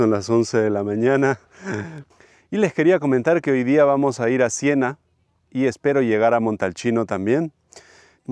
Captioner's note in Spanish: risas